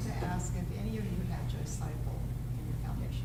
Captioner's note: speaking softly